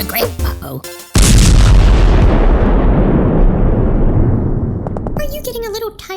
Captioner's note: castle explodes